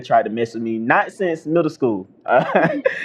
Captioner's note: laughter